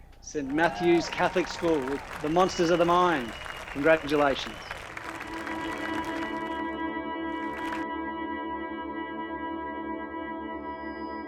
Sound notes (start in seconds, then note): 6.1 crowd applauding; 8.3 dramatic music